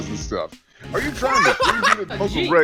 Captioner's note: laughter